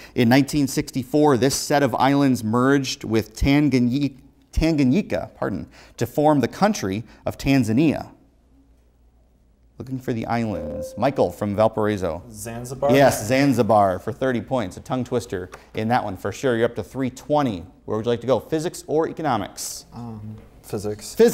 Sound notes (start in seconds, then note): 10.8 buzzer